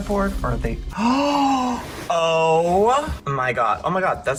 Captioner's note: gasps